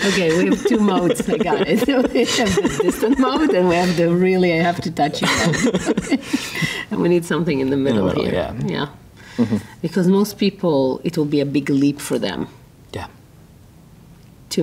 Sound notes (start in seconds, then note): 0.0 laughing